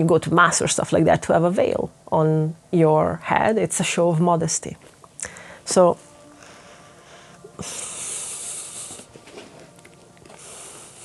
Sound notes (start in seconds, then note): 6.4 inhales